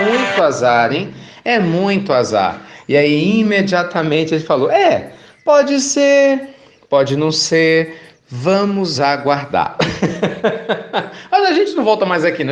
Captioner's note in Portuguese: Risos